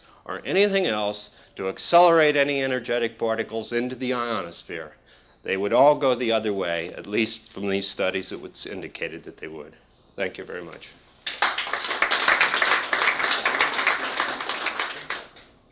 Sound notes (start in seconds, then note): 11.2 applause